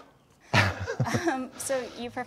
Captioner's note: hands clapping; Ryan laughing; interviewer laughing